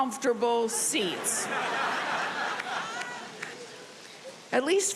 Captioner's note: audience laughing